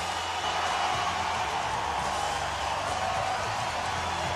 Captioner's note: crowd cheering wildly